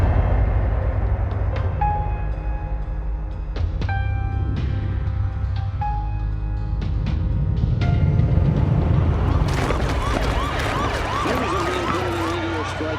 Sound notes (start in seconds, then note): 9.2 clamoring